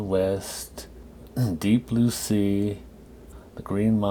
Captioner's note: clears throat